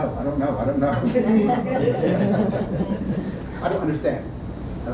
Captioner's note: laughter